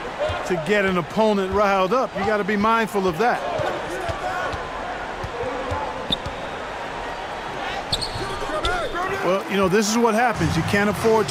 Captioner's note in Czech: Potlesk